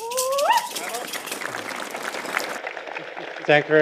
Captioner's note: applause